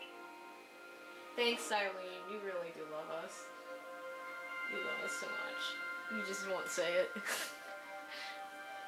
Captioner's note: laughs